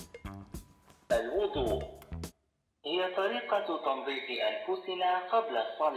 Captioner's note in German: Stimme aus Gerät